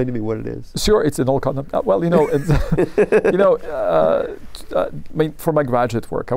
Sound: laughter

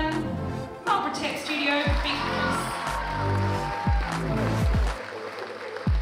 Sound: applause

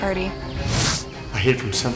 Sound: air whooshing

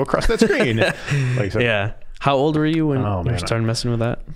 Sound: laughing

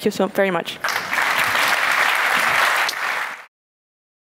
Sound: applause

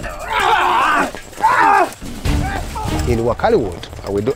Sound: yelling and fighting; suspenseful music

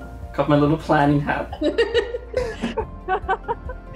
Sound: laughs

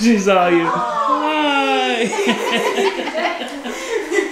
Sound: laughter

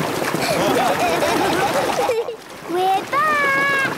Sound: laughing

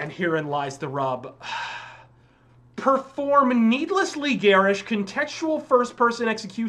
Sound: sigh

